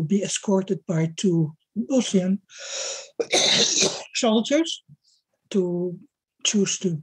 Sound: coughing

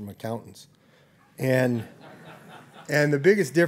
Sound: laughter

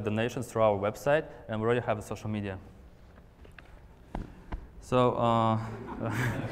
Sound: laughter

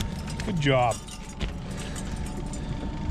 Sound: tackle clattering; fish thrashing

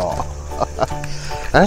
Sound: laughs

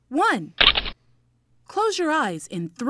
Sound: shutters click

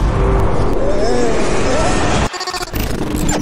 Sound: continue screaming

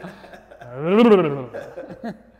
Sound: burbling; laughing

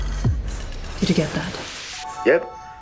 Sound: in British accent

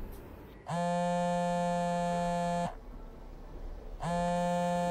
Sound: phone buzzing

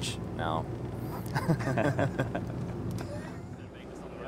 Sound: both laugh

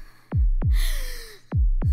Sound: breathes heavily

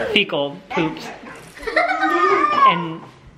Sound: laughing

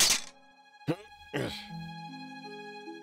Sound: hook clanks; straining

